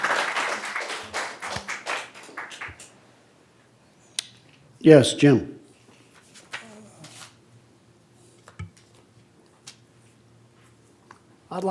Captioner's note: applause